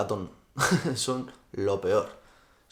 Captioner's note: laughs